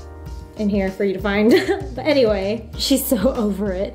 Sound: laughs

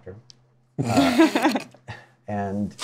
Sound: laugher

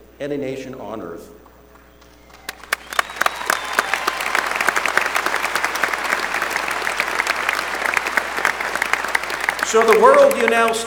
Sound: applause

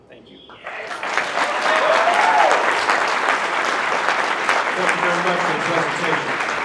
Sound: applause

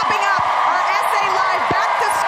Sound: cheers and applause

